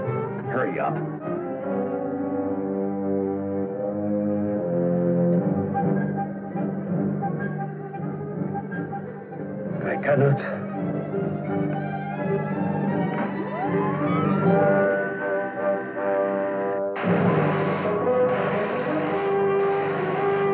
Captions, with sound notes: Hurry up. I cannot. [machine whirring] [zapping]